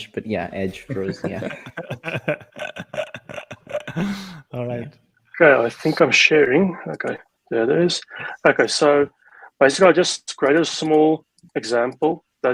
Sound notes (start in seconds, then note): 0.9 laughs